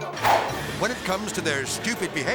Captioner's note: melodic music; air swoosh